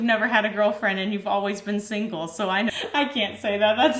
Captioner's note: laughs